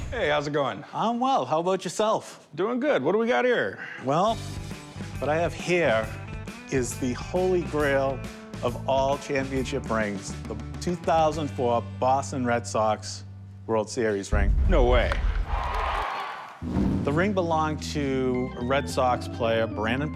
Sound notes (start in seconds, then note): 15.0 ball hitting; 15.4 cheers